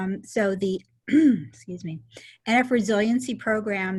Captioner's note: clears throat